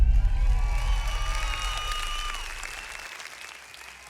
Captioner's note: audience cheering